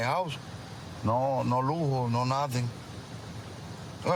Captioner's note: speaking spanish